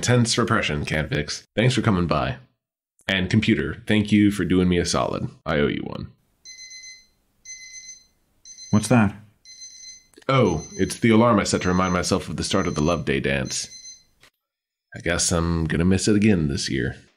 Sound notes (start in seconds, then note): 7.4 small alarm